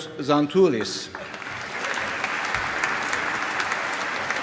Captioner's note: applause